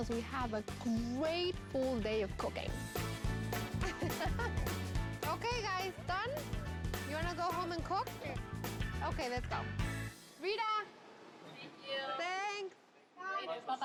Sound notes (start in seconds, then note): 3.7 laughs